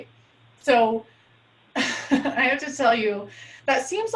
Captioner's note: laughs